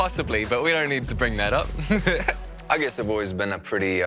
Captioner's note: laughs